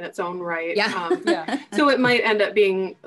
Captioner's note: laughing